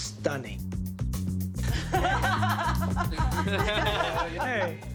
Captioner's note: laughter